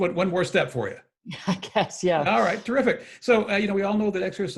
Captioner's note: laughs